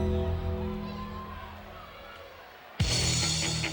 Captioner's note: ominous music; audience cheers; upbeat music